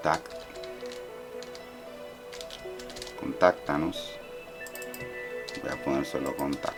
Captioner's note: typing